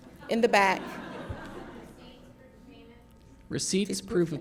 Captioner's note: laughter